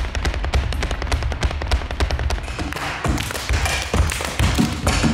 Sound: shoe tapping and clapping rhythm

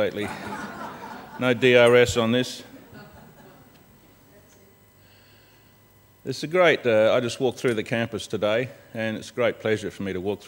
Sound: laughter

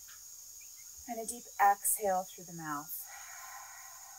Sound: exhales

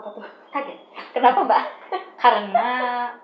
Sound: laugh

